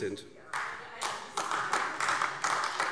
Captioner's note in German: Beifall AfD